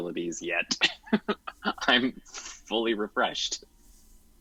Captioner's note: chuckles